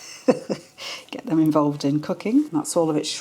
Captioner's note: laugh